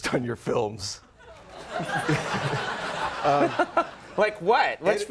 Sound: audience laughing

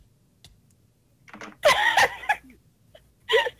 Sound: laughs

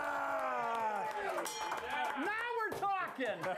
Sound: bell rings; applause

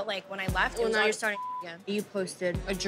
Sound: beep

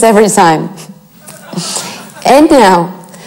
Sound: crowd laughs

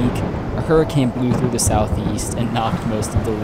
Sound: thunder rumbling

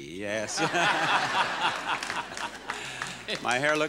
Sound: laughing

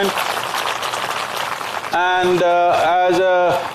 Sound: applause

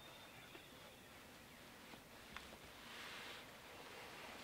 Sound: birds chirping

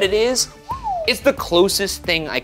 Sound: whistles

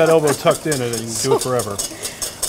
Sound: laughter

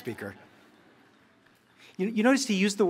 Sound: laughter

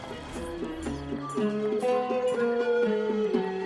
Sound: party noises

